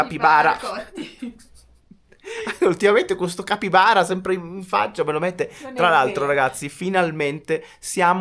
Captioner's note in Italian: risate